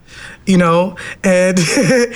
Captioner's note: laughs